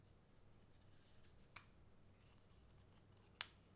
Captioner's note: crack